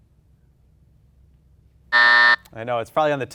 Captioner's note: buzzer buzzing